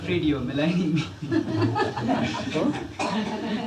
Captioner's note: laughs; laughter